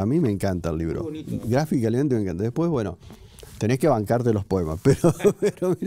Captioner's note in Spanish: risas